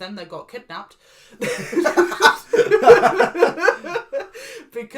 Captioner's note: laugh